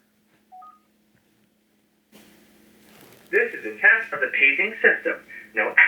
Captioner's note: beep, Message on phone